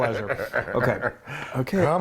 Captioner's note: laughing